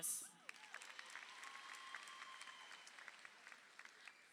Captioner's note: crowd applauding